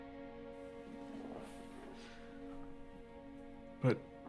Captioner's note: gentle stirring music; couch shuffling